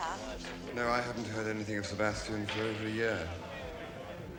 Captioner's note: none